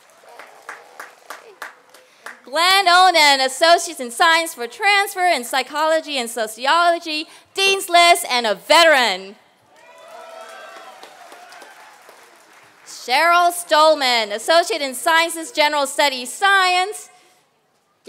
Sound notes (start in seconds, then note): 9.7 applause